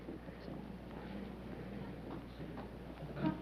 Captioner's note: whispering